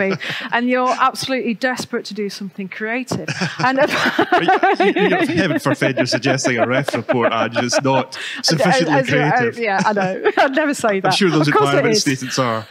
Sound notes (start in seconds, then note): 9.0 laughter